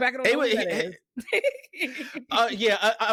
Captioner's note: laughing